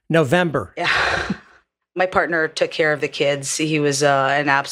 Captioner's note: laugh